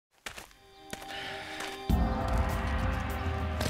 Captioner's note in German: Schritte